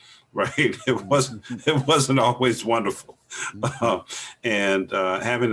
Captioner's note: laughs